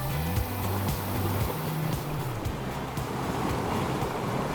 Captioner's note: waves gushing; motor revving